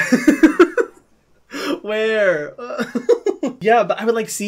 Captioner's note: laughs